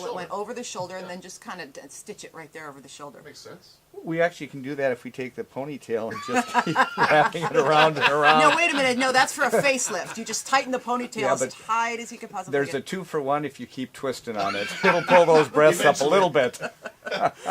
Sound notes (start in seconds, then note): 6.1 laughs; 14.4 laughs